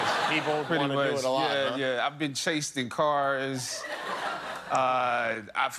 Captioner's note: laughter